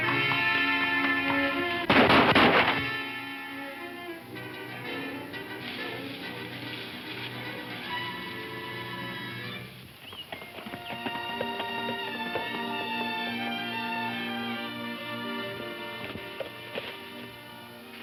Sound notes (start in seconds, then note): 1.8 gun firing; 5.4 soft music